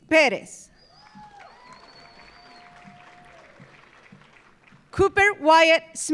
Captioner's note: audience cheering; audience applauding